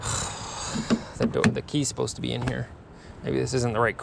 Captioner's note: sighs